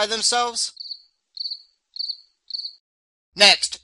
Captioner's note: sound of Crickets Chirping